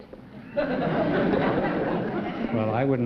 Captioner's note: laughter